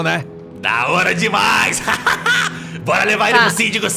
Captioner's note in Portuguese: risada